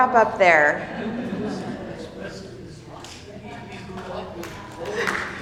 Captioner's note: attendees chattering